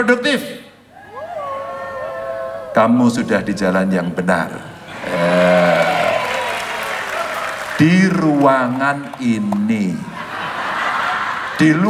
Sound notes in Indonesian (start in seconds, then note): 5.0 tepuk tangan; 10.0 tertawa